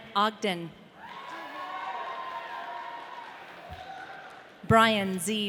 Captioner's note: audience cheering